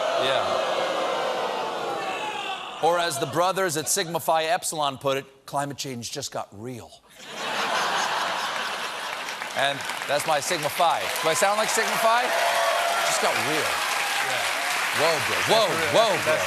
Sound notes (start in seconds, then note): 7.2 laughter; 8.0 applause